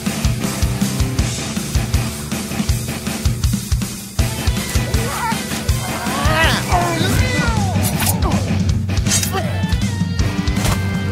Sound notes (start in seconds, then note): 4.2 men groaning; 8.1 sword slashing